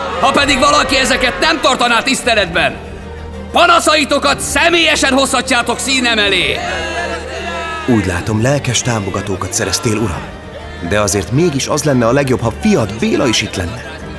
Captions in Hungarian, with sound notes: Ha pedig valaki ezeket nem tartaná tiszteletben, panaszaitokat személyesen hozhatjátok színem elé! [Éljenzés] Úgy látom, lelkes támogatókat szereztél, uram! De azért mégis az lenne a legjobb, ha fiad, Béla is itt lenne.